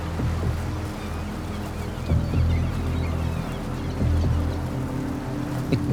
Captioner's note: suspenseful music; birds cawing